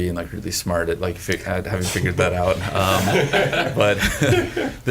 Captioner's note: crowd laughing